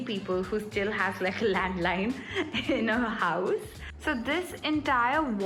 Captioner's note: laughs